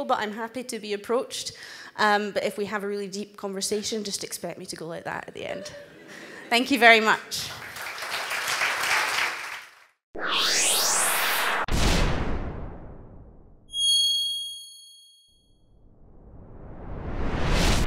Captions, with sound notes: but I'm happy to be approached. But if we have a really deep conversation, just expect me to go like that at the end. (audience laughs) Thank you very much. (applause)